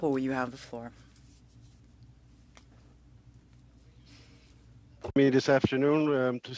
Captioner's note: specking french